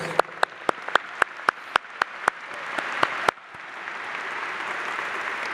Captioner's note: applause